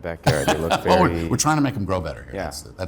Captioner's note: laughing